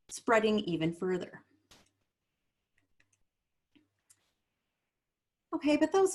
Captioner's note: silence